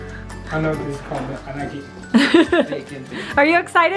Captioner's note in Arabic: يضحك